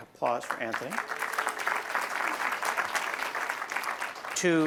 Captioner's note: applause